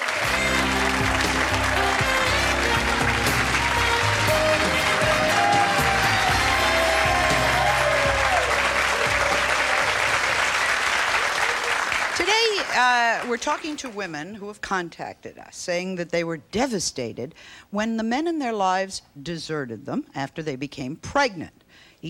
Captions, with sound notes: (jazz music) (audience applauding) Today we're talking to women who have contacted us saying that they were devastated when the men in their lives deserted them after they became pregnant.